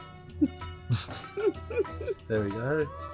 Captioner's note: laughter